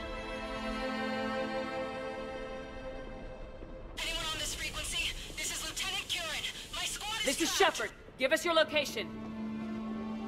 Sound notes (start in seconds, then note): 3.9 staticky